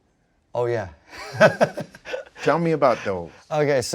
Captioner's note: laughs